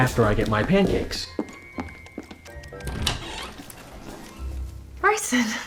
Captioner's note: footsteps, door opening